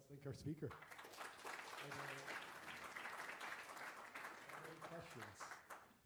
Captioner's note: applause